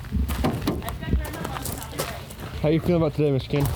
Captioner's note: truck hood thumps